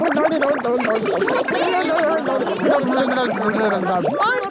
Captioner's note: children laughing